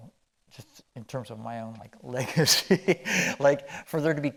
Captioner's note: chuckling